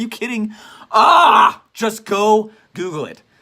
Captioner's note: screams in frustration